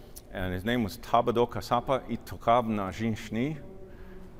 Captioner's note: speaking dakota language